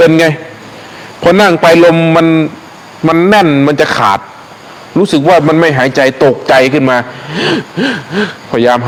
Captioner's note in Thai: เสียงหัวเราะ